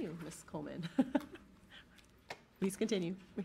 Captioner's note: laughing